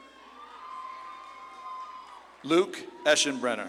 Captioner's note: audience claps and cheers